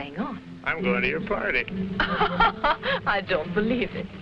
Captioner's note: Raina laughing